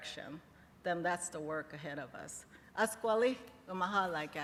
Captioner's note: non-english